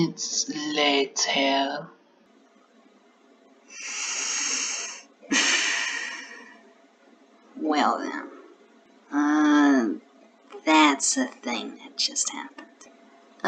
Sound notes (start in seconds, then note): 3.7 inhales then exhales